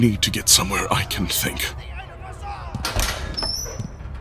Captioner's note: feet on stairs, door opening and closing